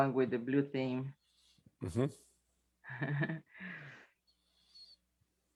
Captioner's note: chuckles